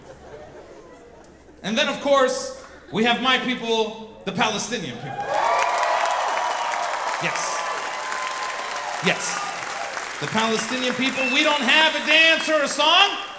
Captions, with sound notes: And then of course, we have my people, the Palestinian people. (audience cheering) - Yes. Yes. The Palestinian people. We don't have a dance or a song.